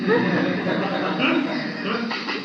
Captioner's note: laughter